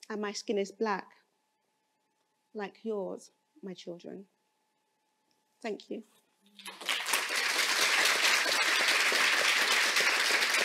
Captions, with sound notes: And my skin is black like yours, my children. Thank you. (applause)